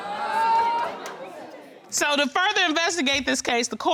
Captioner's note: audience groaning